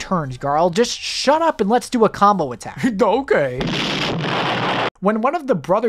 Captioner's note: goofily; cartoon explosion